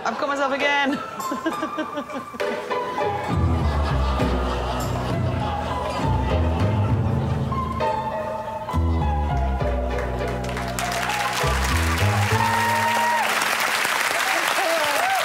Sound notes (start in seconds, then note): 5.6 audience laughs; 10.2 applause